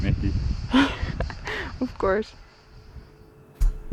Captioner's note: laughs